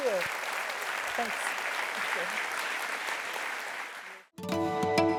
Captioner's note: applause